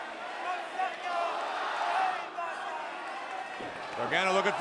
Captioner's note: audience shouting